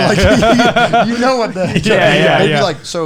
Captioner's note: laughing